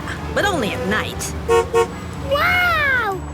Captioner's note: honks